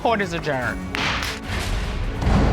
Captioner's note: gavel bangs